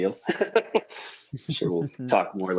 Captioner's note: laugh